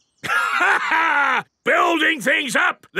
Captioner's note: laughs